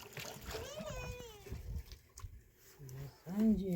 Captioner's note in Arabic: بكاء